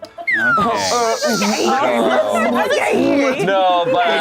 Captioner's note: overlapping chattering